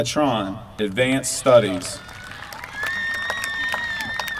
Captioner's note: applause